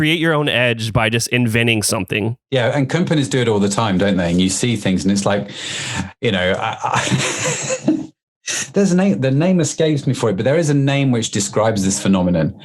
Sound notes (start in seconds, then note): 6.6 laughs